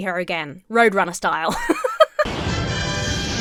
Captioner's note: laughs; frantic music